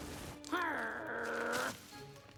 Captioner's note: snarl